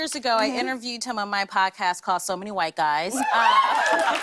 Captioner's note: cheers and applause